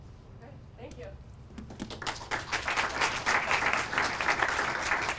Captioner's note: applause